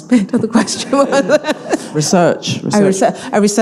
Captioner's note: all laughing